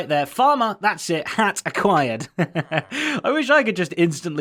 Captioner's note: laughs